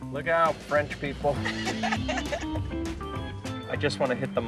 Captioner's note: laughs